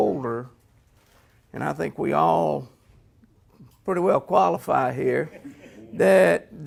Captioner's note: laughter